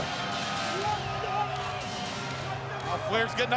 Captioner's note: crowd clamoring; Ric faintly speaking